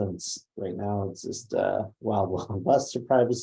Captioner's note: laughs